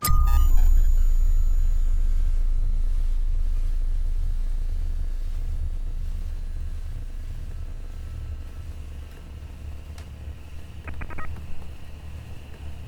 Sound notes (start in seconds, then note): 1.7 electronic thrumming; 8.7 thrum & train & crickets distort